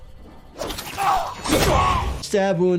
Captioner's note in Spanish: estrella silbando; personaje gritando